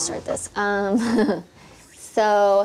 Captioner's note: laughs